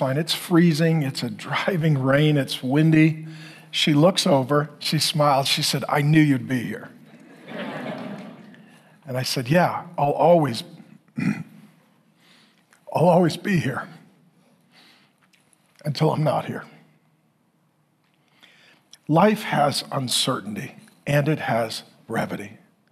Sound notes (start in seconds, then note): 7.0 congregation laughing; 11.2 clears throat